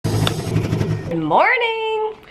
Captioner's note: machines powering down